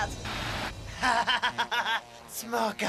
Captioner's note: laughs